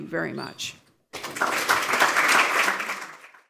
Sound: applause

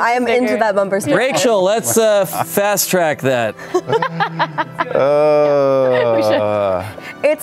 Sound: laughing

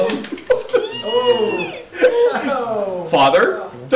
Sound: laughter; squeals with delight

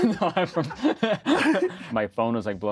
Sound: laughs

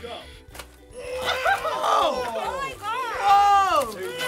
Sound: fierce grunting

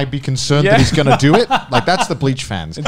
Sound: laughs

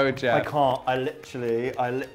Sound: imitates Brit accent

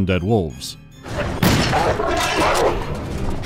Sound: pow

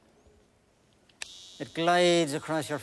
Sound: razor buzzing

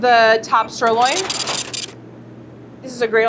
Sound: scale beeps and brrhs

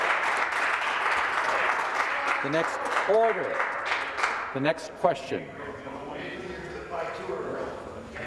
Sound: applause

